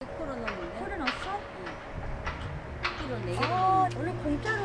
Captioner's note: speaking Korean